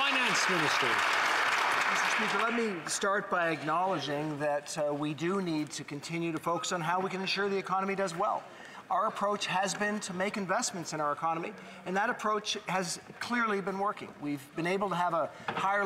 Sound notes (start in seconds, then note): 0.0 some Applause